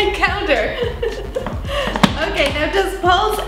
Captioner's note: laughs